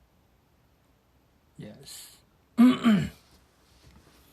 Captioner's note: cLearS thRoAT